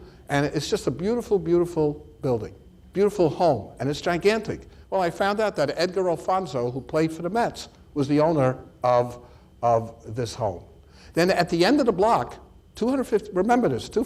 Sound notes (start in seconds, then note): none